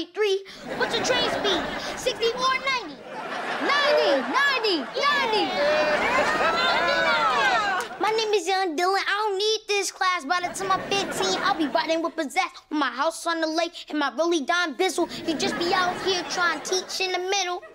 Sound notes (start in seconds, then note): 4.6 cheering